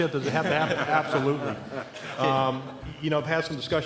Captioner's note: laughter